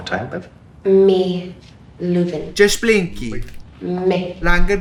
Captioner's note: speaking in Russian